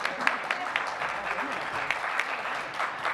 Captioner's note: applause